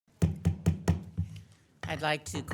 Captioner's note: gavel banging